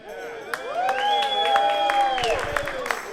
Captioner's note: applause